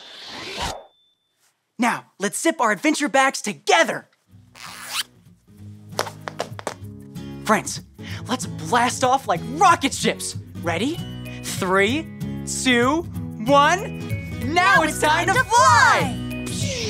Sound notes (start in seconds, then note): 0.0 pictures woosh; 4.5 zipper zips